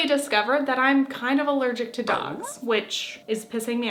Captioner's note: dog whine